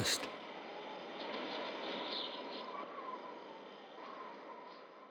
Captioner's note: wind howling